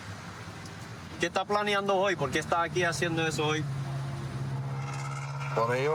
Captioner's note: speaking spanish